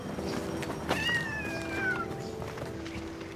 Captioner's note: cat meows